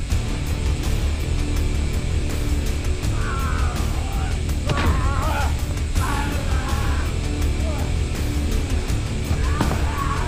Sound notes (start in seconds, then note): 3.0 both groaning